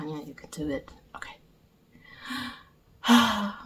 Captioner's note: sigh